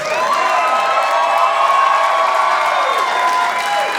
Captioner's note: audience cheering